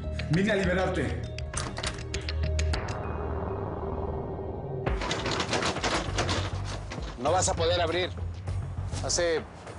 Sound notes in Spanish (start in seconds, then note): 4.8 Ruidos al zarandear la puerta